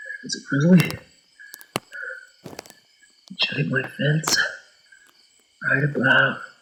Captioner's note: footsteps crunching